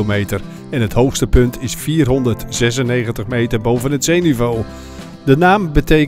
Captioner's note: voiceover